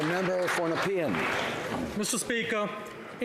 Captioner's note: some Applause